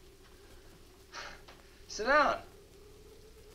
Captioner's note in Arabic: يضحك